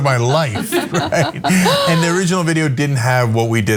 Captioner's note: laugh